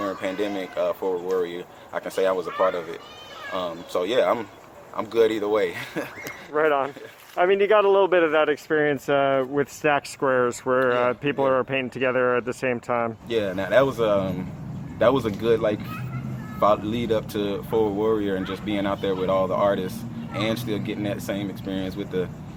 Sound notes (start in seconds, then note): 5.6 laughing